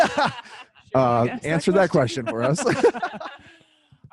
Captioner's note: laughs